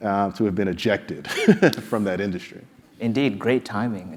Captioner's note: laugh